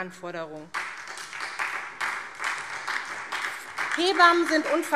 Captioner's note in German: Beifall SPD und vereinzelt DIE LINKE